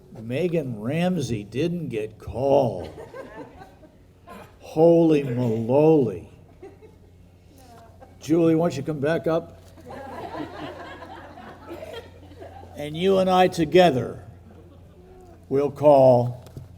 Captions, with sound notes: Megan Ramsey, didn't get called. (people chuckling) Holy malowly. Julie why don't you come back up (people laughing) and you and I together, we'll call.